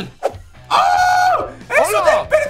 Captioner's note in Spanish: Emocionado